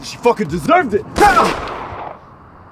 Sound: gunshot

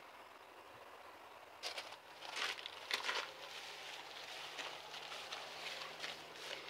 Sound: stomp, crackle, stomp stomp

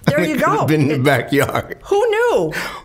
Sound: laughing

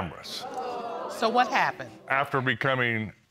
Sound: audience exclaiming

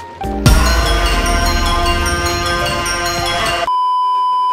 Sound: intense horn #4; beeeeeep

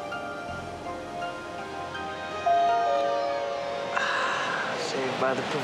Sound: doorbell ringing

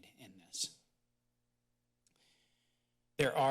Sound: pause

